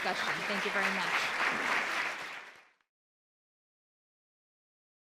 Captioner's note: audience applause